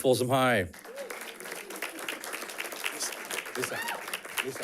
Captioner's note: audience clapping